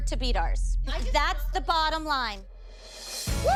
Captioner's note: cheering